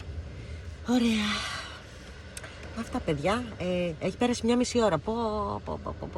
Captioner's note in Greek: αναστενάζει